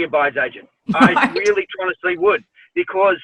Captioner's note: woman laughs